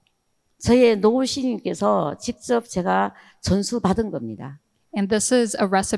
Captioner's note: speaking in foreign language